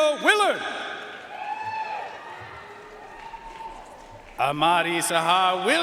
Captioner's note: audience cheering and applauding